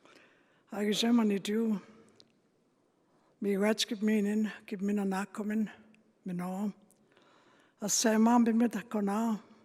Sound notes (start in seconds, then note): 0.6 speaking Indigenous language